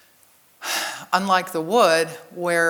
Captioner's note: exhales deeply